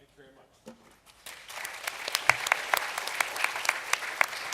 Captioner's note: applause